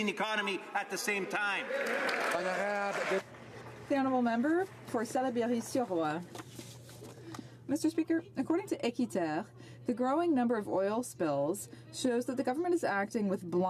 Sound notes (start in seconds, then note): 5.2 some Applause